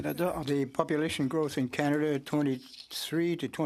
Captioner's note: speaking French